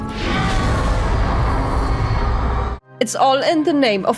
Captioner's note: fiery screams